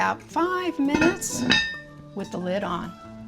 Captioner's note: lid clinking